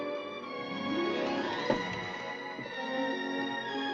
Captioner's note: tap